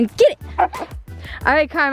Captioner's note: barking